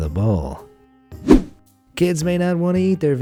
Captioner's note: air whooshing